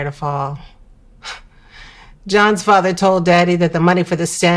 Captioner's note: scoffing